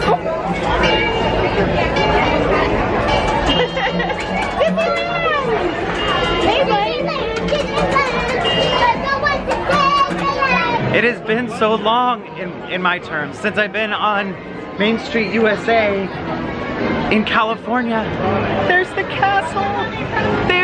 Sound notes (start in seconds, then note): 0.0 laughing; 7.2 children chanting excitedly